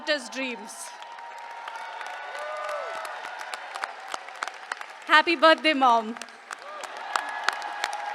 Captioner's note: applause